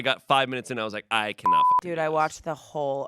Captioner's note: beep